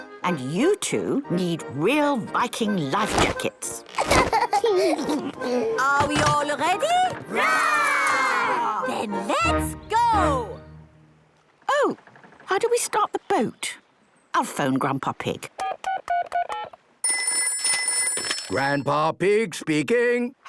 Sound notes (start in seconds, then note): 17.0 dial tones beeping; 17.0 ringing